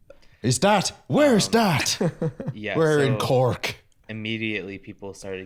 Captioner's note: Irish accent